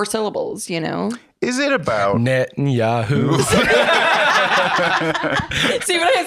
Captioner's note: all laughing